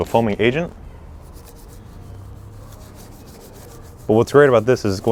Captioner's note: brush scrapes